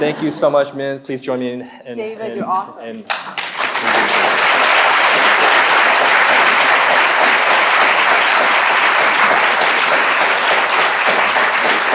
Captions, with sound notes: - Thank you so much, Min. Please join me in- - David, you're awesome. (audience applauding)